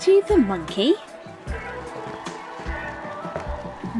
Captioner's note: cheering and applause